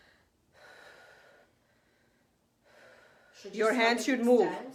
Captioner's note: breathing